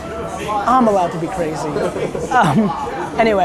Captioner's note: laughs